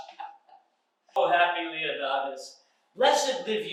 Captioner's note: Iachimo laughing